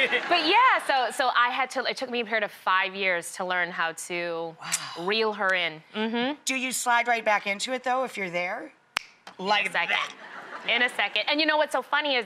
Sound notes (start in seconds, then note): 9.0 snapping